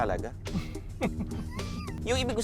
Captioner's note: both chuckle